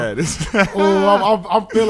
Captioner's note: laughing